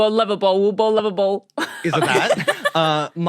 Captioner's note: laugh